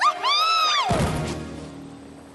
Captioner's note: crash